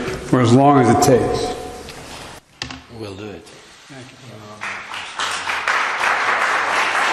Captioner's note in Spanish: hablan en ing inglés